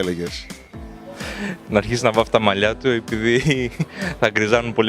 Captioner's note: laughs